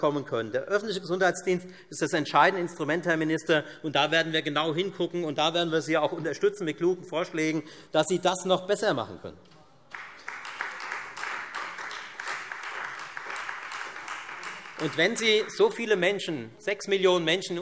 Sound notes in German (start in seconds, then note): 9.8 Beifall Freie Demokraten